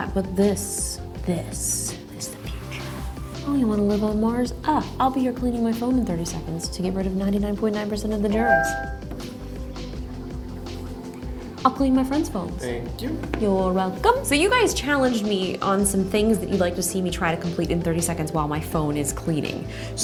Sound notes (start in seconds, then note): 8.3 device chimes